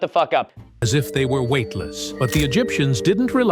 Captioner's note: TikTok AI narrator